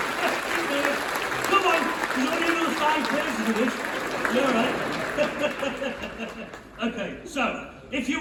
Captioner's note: cheering; laughs to self